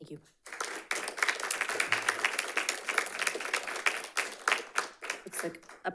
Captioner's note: audience applauding